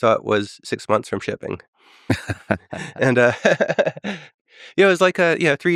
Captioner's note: Tim and Lex laughing